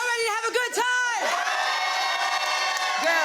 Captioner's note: crowd cheering